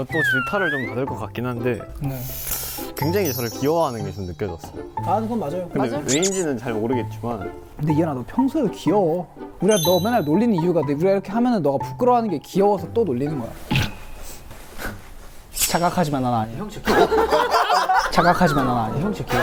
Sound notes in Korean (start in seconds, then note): 2.2 스흐흡